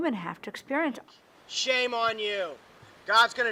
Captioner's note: voiceover